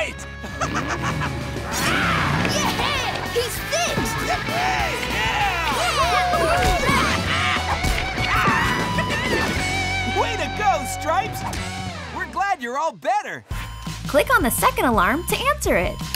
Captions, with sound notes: [laughing] Rawr! -Yeah, he's fixed! -Yeah! [cheering] Way to go Stripes! We're glad you're all better. Click on the second alarm to answer it.